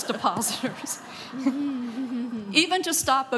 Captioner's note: laughing